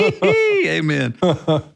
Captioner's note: both laughing